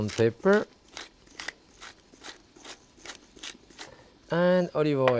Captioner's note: pepper mill grinding